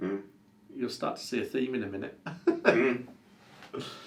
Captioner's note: laughs